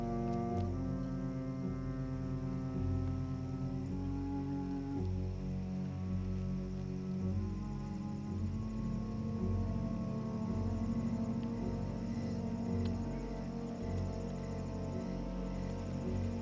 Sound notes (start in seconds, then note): 11.6 crickets chirping